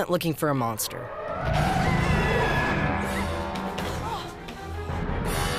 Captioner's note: screaming